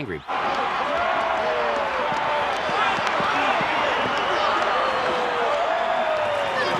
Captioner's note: crowd booing